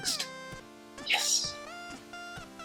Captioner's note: whispers